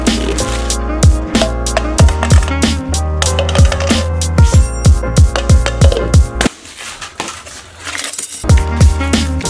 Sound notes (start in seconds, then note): 1.6 hollow clacking; 3.6 loud clack